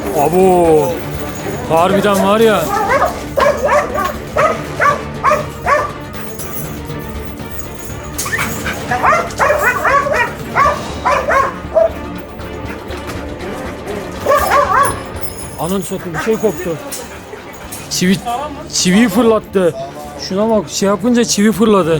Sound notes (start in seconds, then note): 2.7 barking sounds and music